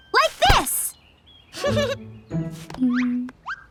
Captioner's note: giggles